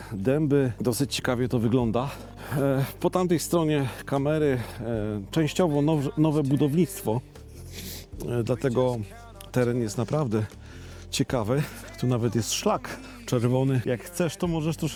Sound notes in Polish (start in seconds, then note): 7.5 parsknięcie